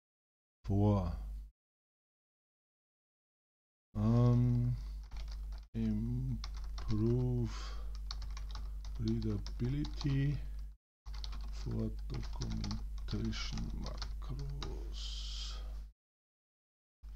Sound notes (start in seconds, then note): 3.7 typing